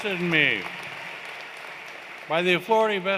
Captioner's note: cheers and Applause